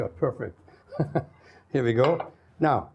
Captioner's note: chuckles